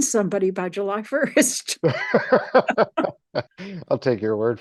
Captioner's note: both laughing